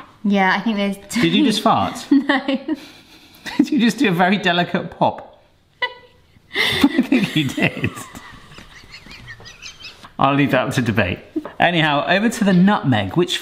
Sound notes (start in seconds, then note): 3.0 laughs; 6.5 laughs; 8.4 both laugh